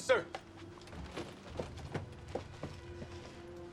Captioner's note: footstep